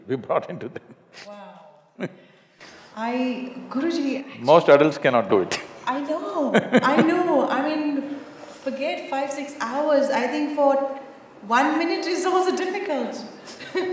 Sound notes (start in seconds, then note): 1.2 laughs; 6.5 Sadhguru laughs; 13.4 both laugh